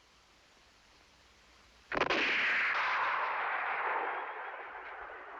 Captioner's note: gunshot